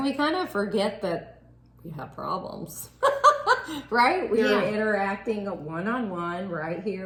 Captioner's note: laughing